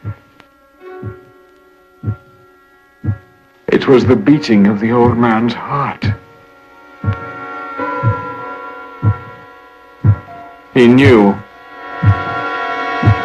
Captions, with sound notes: (SUSPENSEFUL MUSIC) (BEATING SOUND) (BEATING SOUND) IT WAS THE BEATING OF THE OLD MAN'S HEART. (HEART BEATING LOUDER) HE KNEW. (INTENSE SUSPENSEFUL MUSIC) (HEART BEATING LOUDER)